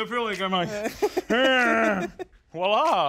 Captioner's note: laughing